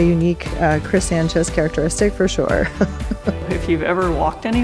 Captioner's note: laughs